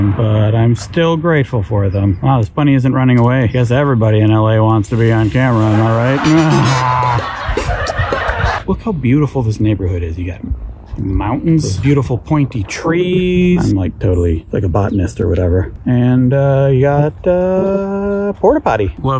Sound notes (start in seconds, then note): 5.7 laughing; 7.3 audience laughing